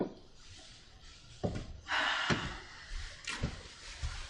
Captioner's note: sighs